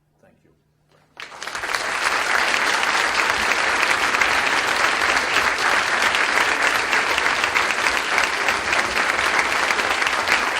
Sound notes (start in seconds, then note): 1.7 audience applauds